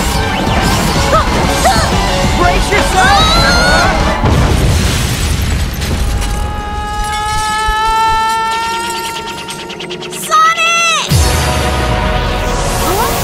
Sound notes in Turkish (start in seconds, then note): 2.4 yells; 3.8 patlama; 6.1 bağiran